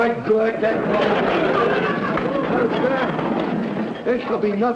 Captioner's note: cart rolling across floor